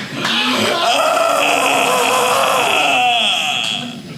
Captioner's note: audience laughing; groaning